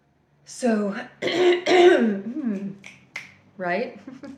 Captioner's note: clears throat